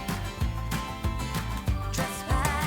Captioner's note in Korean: 터덜터덜